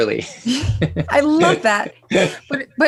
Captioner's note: both laugh